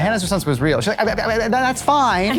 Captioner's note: stammering; all laughing